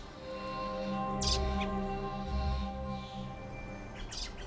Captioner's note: bird chirping